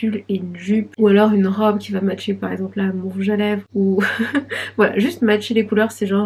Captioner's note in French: rires